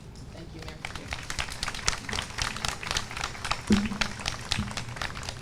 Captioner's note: audience applauds